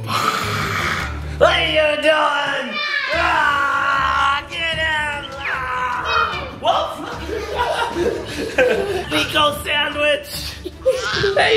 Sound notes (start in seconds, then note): 0.0 growls; 8.5 all laughing